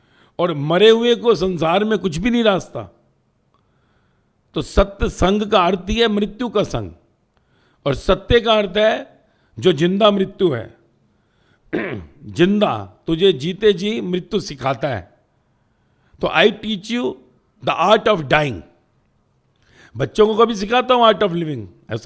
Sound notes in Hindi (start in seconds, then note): 11.7 गला साफ़ करने की आवाज़